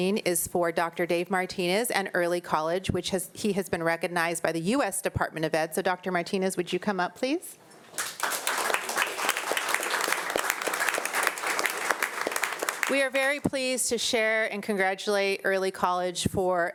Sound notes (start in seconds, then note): 7.9 audience applauding